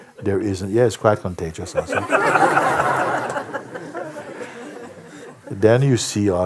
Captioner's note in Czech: smích